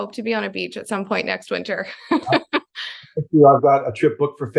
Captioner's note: laughs